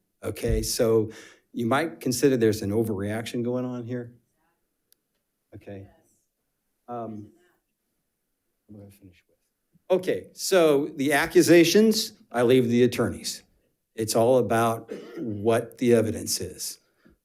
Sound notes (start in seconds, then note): 9.5 faintly speaking